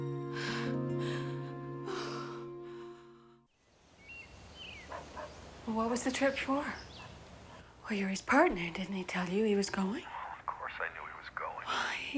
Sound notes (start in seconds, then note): 3.6 birds chirping; 4.7 dog barking